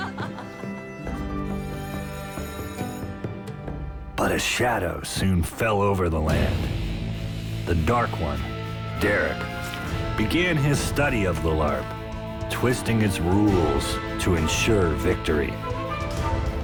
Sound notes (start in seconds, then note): 0.0 joyful Laughter; 1.4 school Bell Ringing